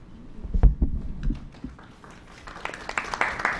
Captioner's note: applause